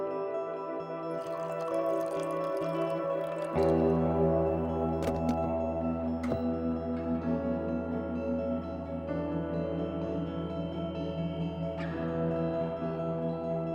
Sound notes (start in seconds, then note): 1.1 water being poured